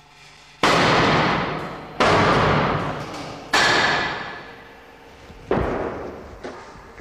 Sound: whirring; bang

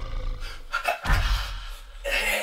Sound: ghost shark growls; fire blasts

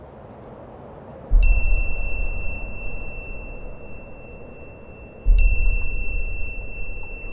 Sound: wind blowing; beep

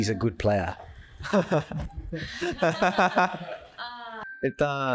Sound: laughs

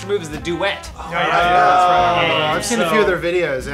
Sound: groans of realization and agreement

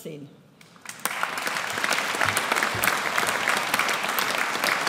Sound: audience applauds

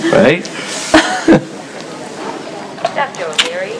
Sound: laughs

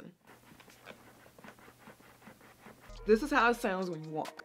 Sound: boots rubbing

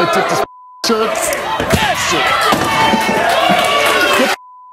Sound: audience cheers

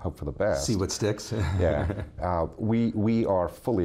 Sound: laughs

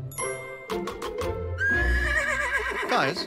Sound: neighing

